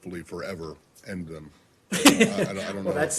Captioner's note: laughter